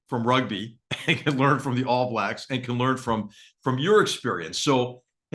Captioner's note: laugh